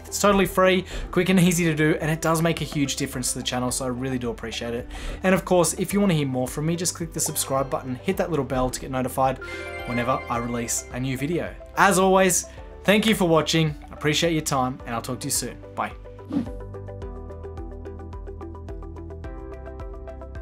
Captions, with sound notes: It's totally free, quick and easy to do, and it does make a huge difference to the channel, so I really do appreciate it. And of course, if you wanna hear more from me, just click the subscribe button, hit that little bell to get notified whenever I release a new video. As always, thank you for watching, I appreciate your time, and I'll talk to you soon, bye. (swishes) (upbeat music)